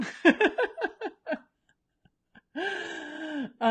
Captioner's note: laughs